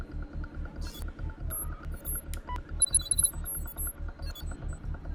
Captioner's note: interface whirring